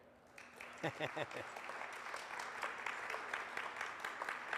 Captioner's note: audience applauds